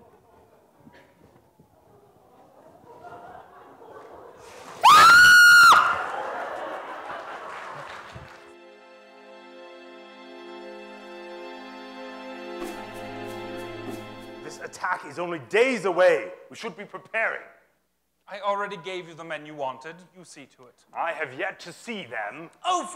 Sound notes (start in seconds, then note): 7.4 applause